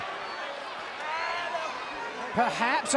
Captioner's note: fans chattering